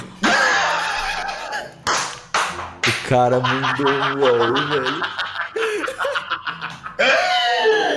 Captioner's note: laughes